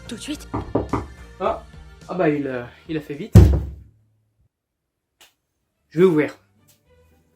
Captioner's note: knocking on the door; heavy knock